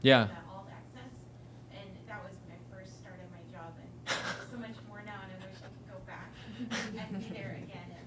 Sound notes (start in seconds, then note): 4.0 laughter